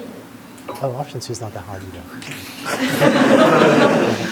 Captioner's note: laughter